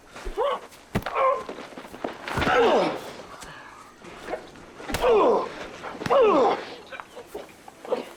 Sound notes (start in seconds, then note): 5.0 grunting